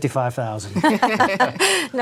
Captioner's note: laughter